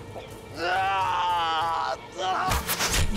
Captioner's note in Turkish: Bağırma sesi; Ok fırlatma sesi